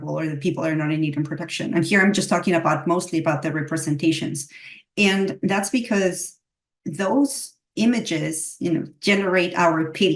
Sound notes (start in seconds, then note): none